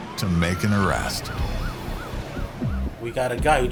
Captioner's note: distant sirens wailing